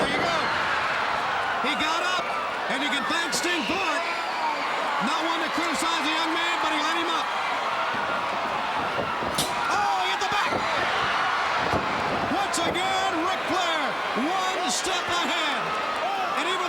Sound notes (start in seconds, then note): 0.3 crowd cheering; 7.9 crowd cheering